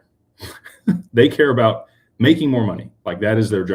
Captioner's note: snorts